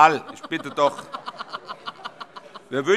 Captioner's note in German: Heiterkeit